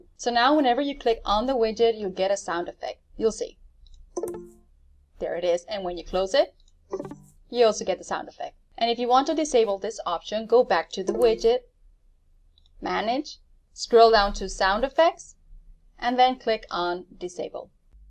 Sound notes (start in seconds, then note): 4.2 computer makes a ding sound; 6.9 computer makes a ding sound; 11.0 computer makes a ding sound